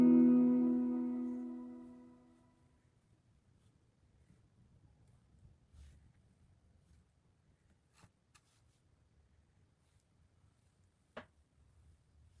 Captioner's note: painting in silence